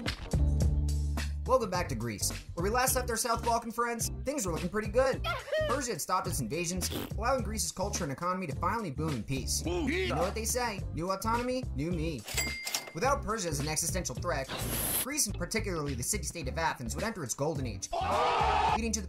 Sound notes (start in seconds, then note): 6.8 raspberry; 17.9 cheering